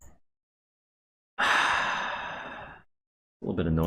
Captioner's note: sighs